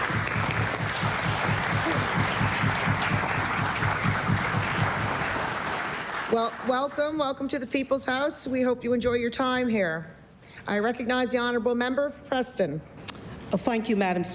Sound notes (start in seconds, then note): 3.4 applause